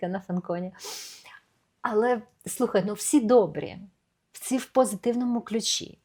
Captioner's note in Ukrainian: сопіння